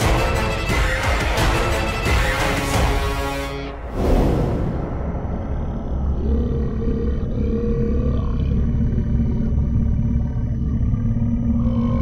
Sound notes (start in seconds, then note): 7.1 low growling